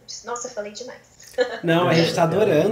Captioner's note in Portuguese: Risos